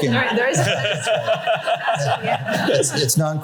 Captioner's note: laughter